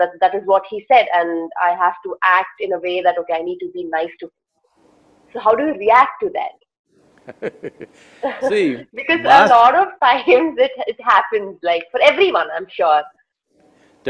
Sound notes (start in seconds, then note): 7.2 laughs